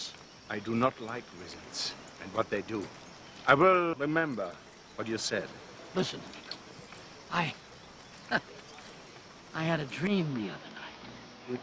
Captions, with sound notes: - I do not like wizards and what they do. I will remember what you've said. - Listen, I-- (laughs) I had a dream the other night.